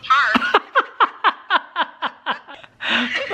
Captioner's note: laughs